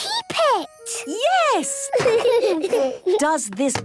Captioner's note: laughter